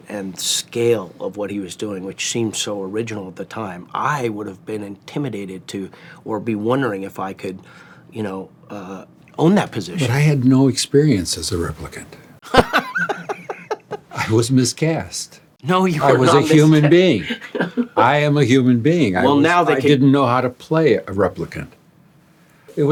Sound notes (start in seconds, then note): 12.4 laughing